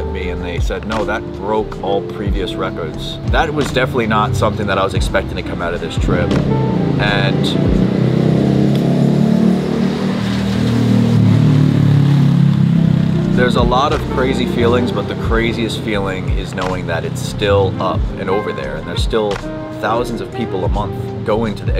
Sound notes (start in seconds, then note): 7.9 motorcycle rumbles